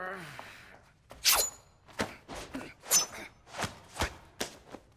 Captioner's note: knife scratching